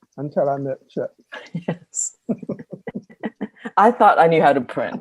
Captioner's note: laughing